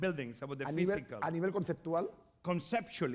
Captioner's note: speaking spanish